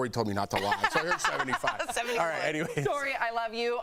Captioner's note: laughter